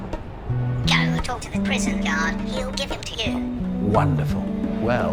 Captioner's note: through speaker